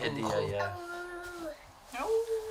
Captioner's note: howls like a wolf